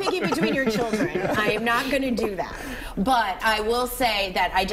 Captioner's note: laughter